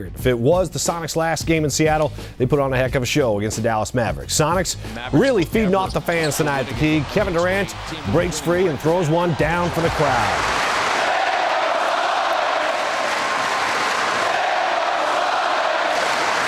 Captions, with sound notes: If it was the Sonics last game in Seattle, they put on a heck of a show. Sonics really feeding off the fans tonight. Kevin Durant breaks free and throws one down for the crowd. (Crowd) Save our Sonics! Save our Sonics!